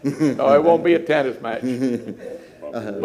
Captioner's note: laughter